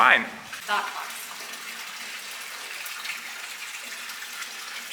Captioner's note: water running